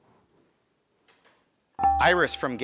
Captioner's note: buzzer chimes